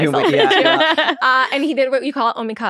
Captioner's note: laughing